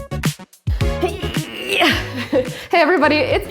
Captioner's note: straining grunt